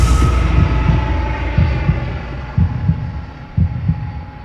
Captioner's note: heartbeat